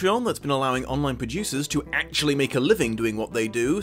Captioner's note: none